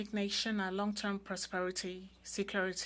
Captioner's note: speaking French